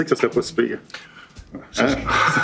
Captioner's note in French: rires